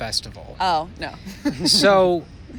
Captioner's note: laughs